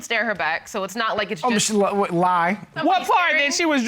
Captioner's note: stammers